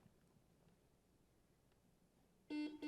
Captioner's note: buzzer buzzing